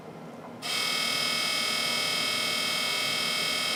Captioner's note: laser buzzes